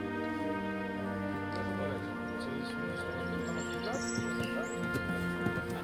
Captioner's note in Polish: odgłosy lasu, coraz wyraźniejszy tętent końskich kopyt